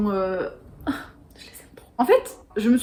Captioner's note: sigh